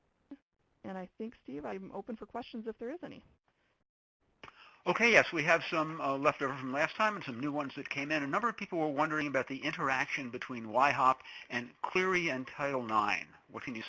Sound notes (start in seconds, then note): 4.5 voiceover